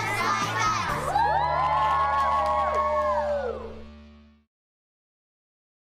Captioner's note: students cheering